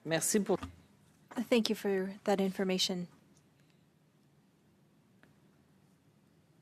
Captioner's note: speaking French